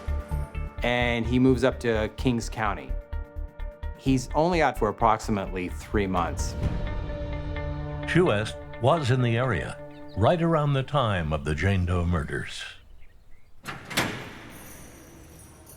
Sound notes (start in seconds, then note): 13.5 lock clicking